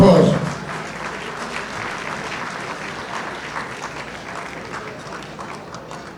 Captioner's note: audience applauding